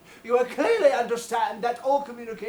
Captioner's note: none